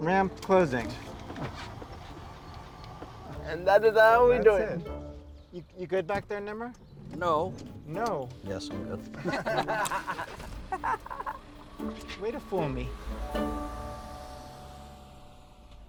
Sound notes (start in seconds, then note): 9.1 group laughs